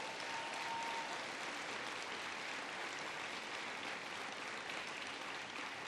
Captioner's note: applause